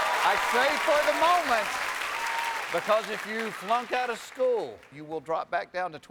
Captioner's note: cheers and applause